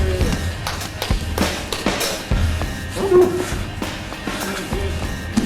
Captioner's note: audience applauding